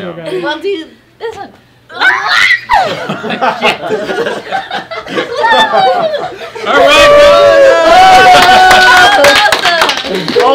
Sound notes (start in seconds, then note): 2.8 everyone laughing; 6.6 cheering and clapping